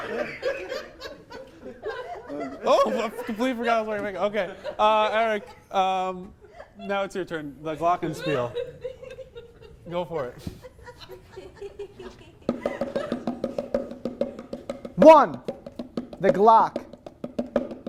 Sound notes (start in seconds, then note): 0.0 more genuine laughter; 10.2 one audience member going "hee hee hee"; 12.4 bongos